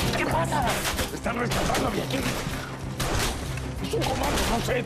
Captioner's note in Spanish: Disparos